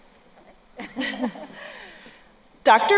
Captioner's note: both chuckle